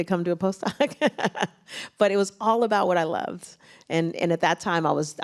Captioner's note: laughs